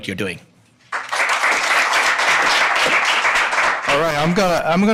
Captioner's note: audience applauding